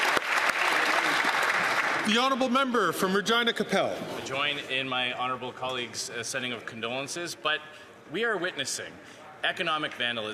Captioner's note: applause